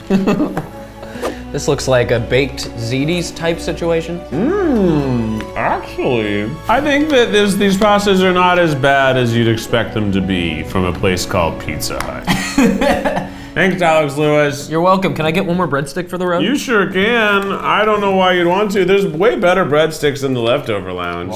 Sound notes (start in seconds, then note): 12.2 laughs